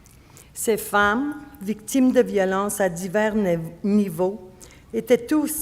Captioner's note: speaking French